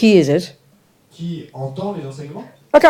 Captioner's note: French